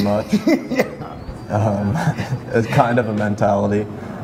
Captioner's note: laughs